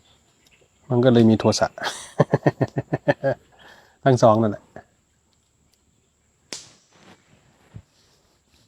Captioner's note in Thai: เสียงหัวเราะ